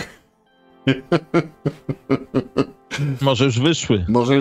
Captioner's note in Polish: śmiech